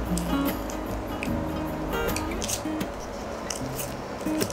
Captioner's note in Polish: dźwięk nacinania papieru nożyczkami